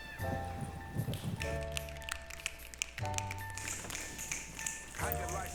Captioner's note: snapping